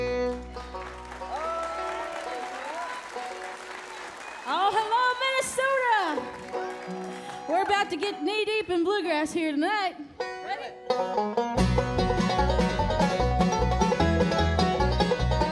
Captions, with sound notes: (audience applauds) - Awe, hello, Minnesota! We're about to get knee-deep in bluegrass here tonight. Ready? (lively bluegrass music)